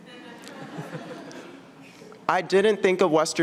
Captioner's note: audience laughing